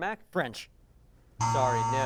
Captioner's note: buzz